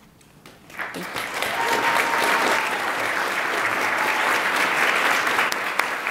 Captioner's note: attendees applaud and cheer